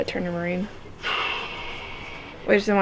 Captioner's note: sighs